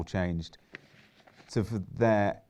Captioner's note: papers rustling